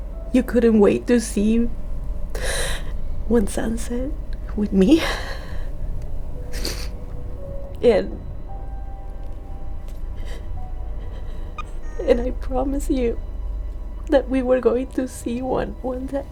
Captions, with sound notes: you couldn't wait to see one sunset, with me? and... and I promised you [Computer softly buzzes] that we were going to see one, one day?